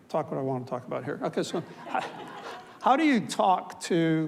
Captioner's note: audience laughs